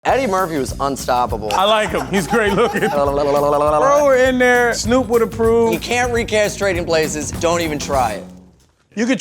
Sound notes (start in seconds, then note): 3.3 jabbering